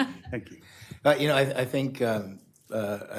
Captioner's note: laughter